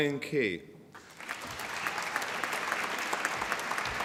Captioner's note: applause